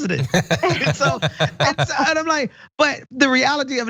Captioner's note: laugh